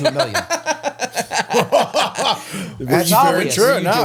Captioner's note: laughter